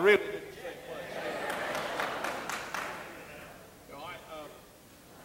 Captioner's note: audience laughing